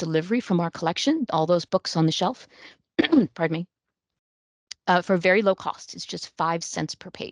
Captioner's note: coughs